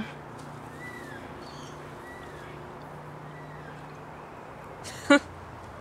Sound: faint traffic humming; bird chirping; laughs

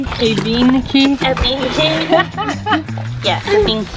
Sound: giggles

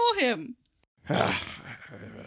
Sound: grumbling

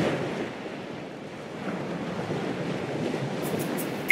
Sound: sound of waves

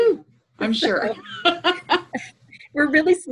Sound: laughs

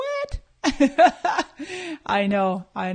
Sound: laughing

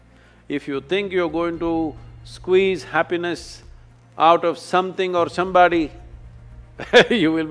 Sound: laughs

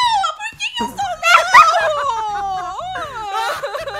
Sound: screaming; laughing; mourning; crying; laughing on the backgroud

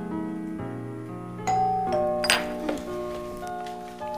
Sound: doorbell dinging

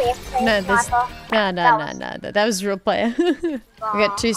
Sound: laughs

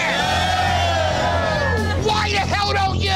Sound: customers yelling

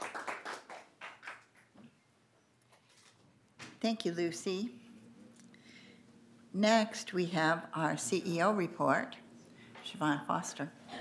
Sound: applause

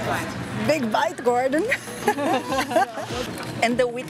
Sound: laughs

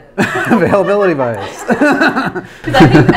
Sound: laughs

